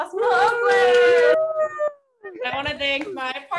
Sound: cheering

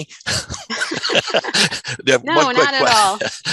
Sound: chuckling

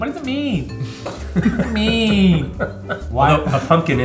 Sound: laughs

